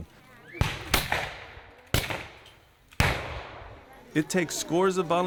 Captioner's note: gunfire